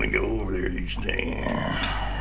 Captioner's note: burps